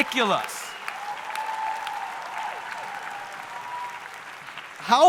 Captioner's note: audience cheering